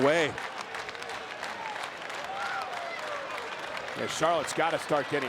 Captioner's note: crowd applauding